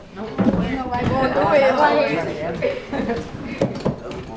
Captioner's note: crowd talking